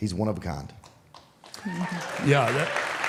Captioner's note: audience applauds